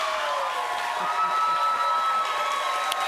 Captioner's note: chuckles